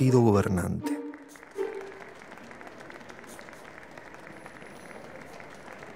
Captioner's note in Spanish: Aplausos